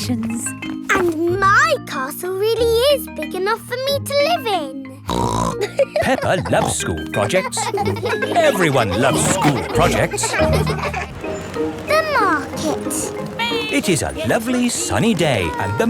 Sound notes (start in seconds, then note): 5.2 snorts and laughs; 8.0 children laughing